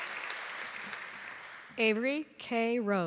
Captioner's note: applause